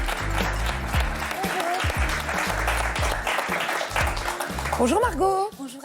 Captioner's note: applause